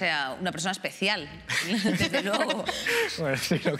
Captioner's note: laughs